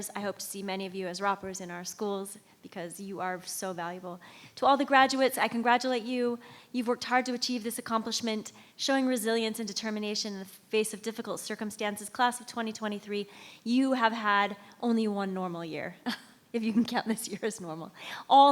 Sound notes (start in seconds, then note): 15.8 chuckles